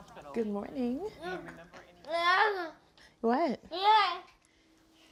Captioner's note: child vocalizes